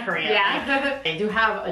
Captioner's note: laughs